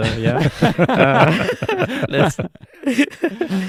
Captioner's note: laughing